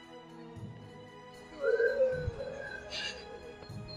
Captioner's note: growling